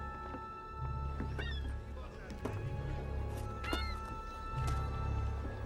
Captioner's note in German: Möwenkreischen